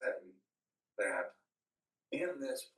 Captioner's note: laughs